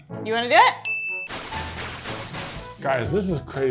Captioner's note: laser blasting